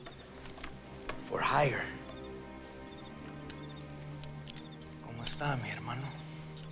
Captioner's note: speaking in foreign language